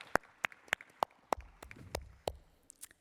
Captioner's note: applause